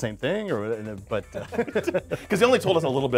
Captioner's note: laughs